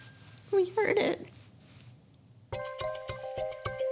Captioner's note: voice breaking